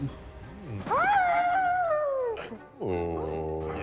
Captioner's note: suspenseful music; howling